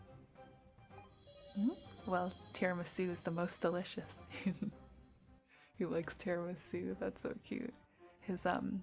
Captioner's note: giggles